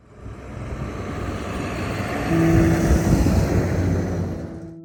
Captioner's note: loud bus sound